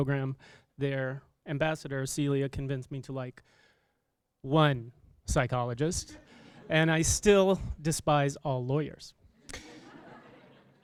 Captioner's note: laughter